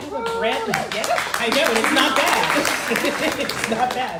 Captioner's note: crowd cheering